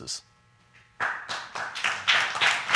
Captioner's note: applause